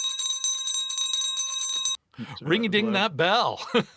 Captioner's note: bell ringing